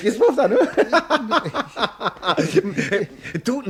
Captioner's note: laughs